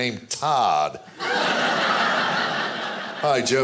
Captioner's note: audience laughing